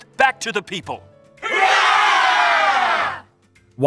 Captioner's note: crowd cheering